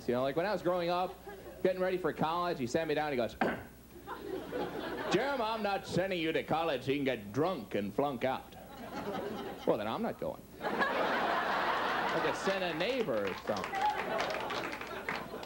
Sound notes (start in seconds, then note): 3.4 clears throat; 10.6 audience laughs